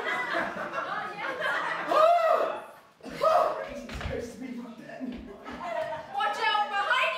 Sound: misreading the stage directions chaotic improv noises

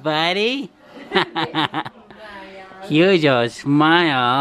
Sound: laughing

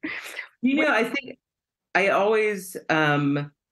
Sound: laughter

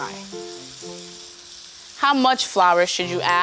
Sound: sizzling

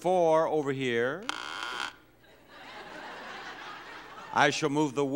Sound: number creaks

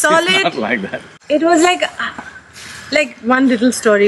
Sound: laughs

